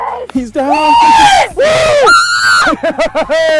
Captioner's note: cheers; laughter